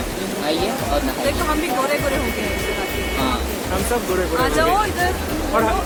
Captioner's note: laugh